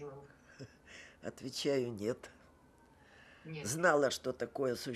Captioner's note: laughing